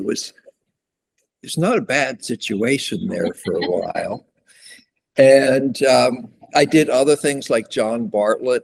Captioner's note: laughter